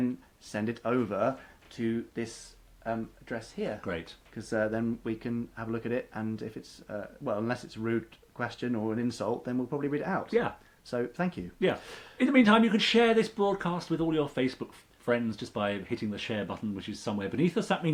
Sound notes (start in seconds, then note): none